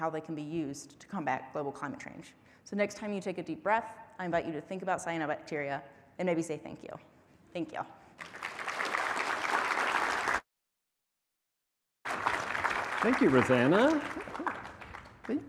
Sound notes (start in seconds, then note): 8.2 applause